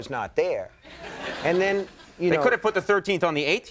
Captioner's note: audience laughing